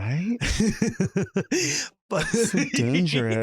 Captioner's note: laughs